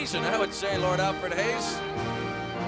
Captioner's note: none